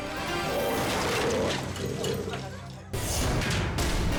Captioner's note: scooter crashes